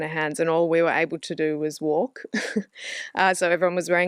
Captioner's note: laughs